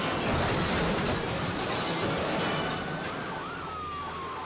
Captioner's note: car crashing